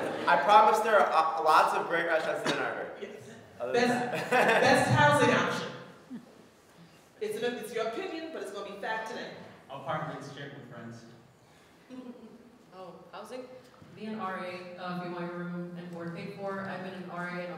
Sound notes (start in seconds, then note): 0.0 audience laughing; 3.9 laughs